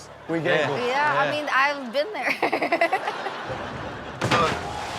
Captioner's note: laughs; audience laughs